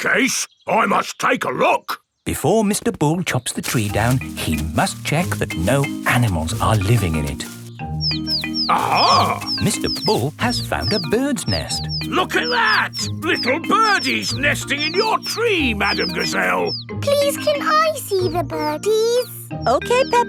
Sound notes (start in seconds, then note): 8.3 chirping